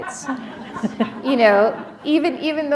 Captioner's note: laughter